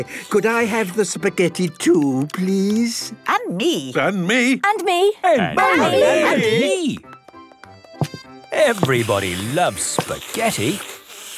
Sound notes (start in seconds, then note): 3.4 calling out in turn